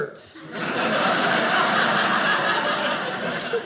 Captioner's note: audience laughing